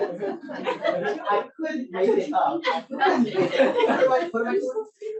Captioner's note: audience laughs; all chattering